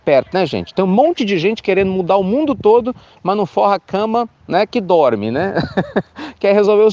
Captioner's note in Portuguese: risos